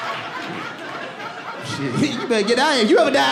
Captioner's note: audience laughs